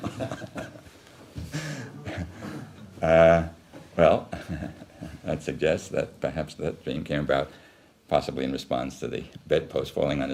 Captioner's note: laughs